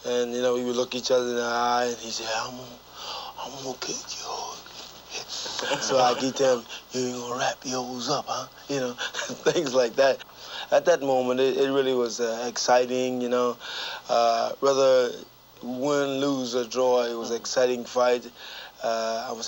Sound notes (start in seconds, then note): 4.9 whispering; 5.3 laughing; 8.9 chuckling